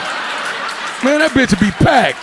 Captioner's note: audience laughing